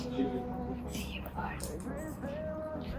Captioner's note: whispering